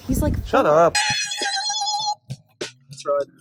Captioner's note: screaming